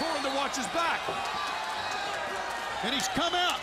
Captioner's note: crowd chatter